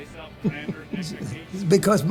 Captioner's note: laughter